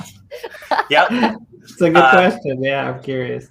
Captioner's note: all chuckling